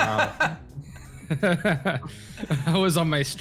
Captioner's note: laughs